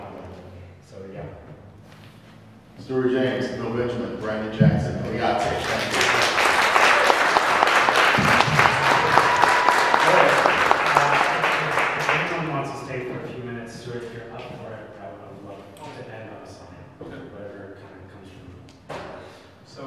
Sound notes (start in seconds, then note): 5.6 audience cheering and clapping